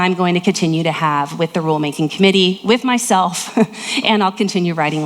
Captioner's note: laughs